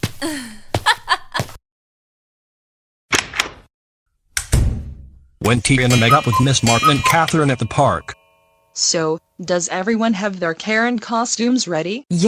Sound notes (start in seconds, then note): 0.2 chuckles evilly; 3.1 door opens; 4.3 door closes